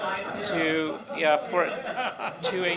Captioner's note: laughter